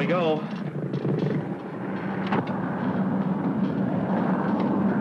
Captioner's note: plane engine rumbling